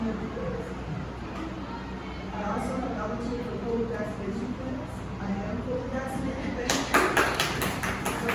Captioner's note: applause